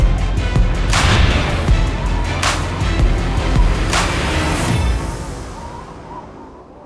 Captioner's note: upbeat music; wind howling